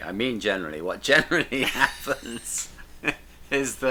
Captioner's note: laughing